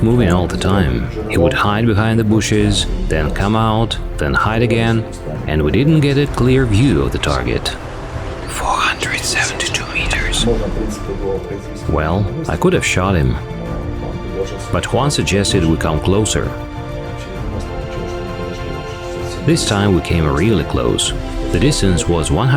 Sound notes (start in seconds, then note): 8.3 whisper